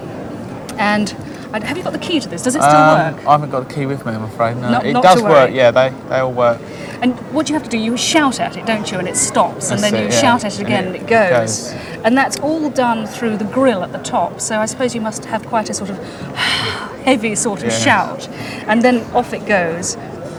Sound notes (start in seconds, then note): 16.0 breathes heavily